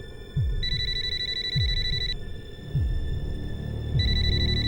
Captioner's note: phone ringing